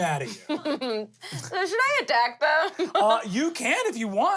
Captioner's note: laughs